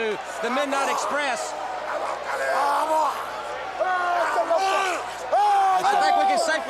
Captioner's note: crowd chatter